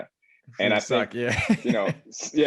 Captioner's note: laugh